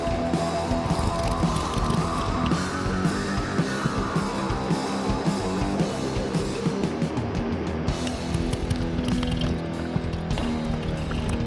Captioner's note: engine revving